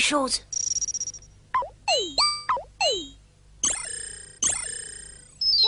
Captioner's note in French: bruitages électroniques; bruitage révélation